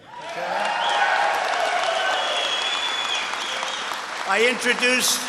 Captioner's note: applause